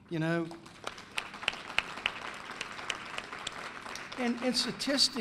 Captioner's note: applause